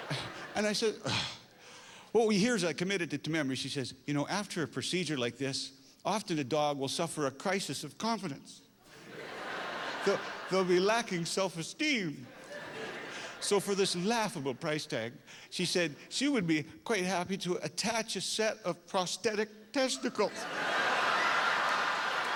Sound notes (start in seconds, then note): 8.9 laughter